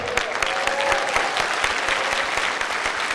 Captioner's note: clapping